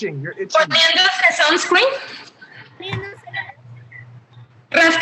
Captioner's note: woman speaking Spanish